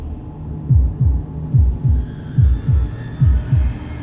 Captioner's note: heartbeat pounding